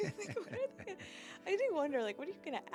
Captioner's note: laughter